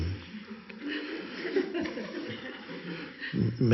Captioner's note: audience chuckling